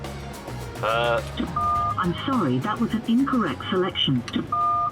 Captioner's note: phone beeps; automated voice; phone beeps